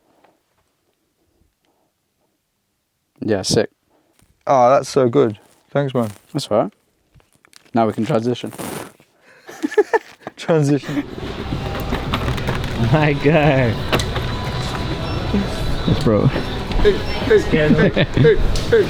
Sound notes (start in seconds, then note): 9.4 laughing